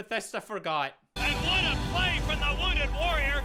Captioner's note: announcer failing at yelling over the crowd